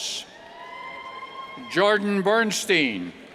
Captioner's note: cheers